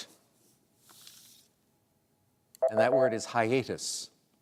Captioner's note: beep